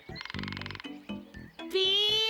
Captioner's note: woodpecker tapping